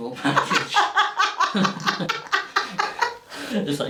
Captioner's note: laughs